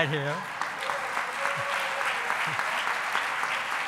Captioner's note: applauding